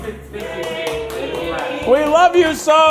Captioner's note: crew cheering